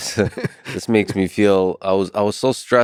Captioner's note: chuckles